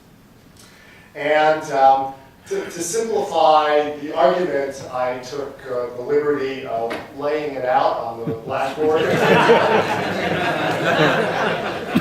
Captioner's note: laughter